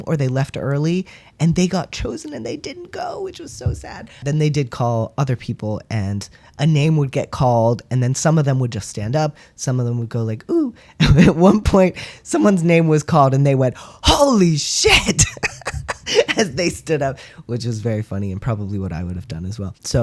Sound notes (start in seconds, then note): 15.0 laugh